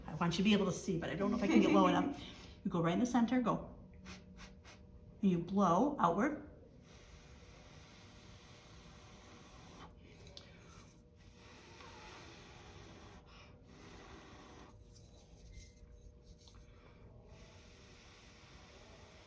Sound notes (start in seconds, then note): 7.4 blowing air